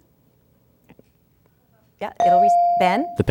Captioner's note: ding